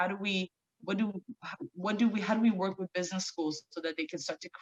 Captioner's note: stammering